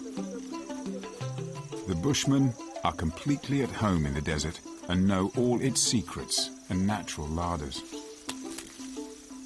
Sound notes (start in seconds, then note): 0.1 dramatic music; 1.7 wood clunking; 6.5 dramatic music